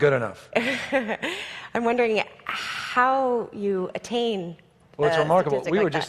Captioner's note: laughs